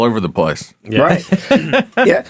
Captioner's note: laughing